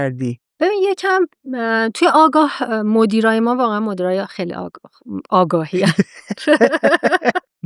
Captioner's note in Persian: خنده